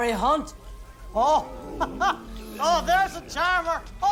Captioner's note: laughs